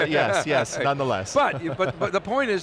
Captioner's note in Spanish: risas